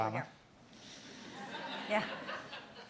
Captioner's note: audience laughing